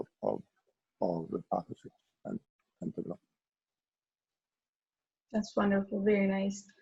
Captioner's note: murmurs